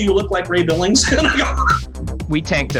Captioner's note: laughs